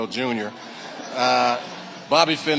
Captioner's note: audience laughing